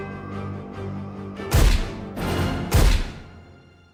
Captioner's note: gunfire